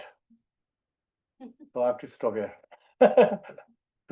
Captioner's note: laughs